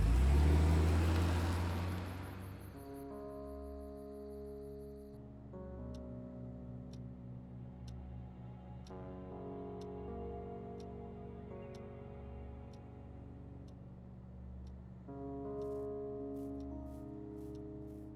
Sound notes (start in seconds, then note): 0.0 car engine roars; 3.0 melancholic instrumental music continues; 7.0 clock ticking; 10.8 melancholic instrumental music continues